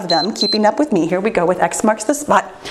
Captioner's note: timer beeps